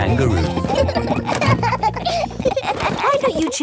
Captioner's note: children laughing